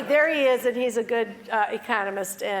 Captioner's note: laugh